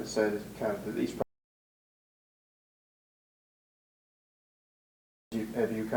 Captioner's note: audio drop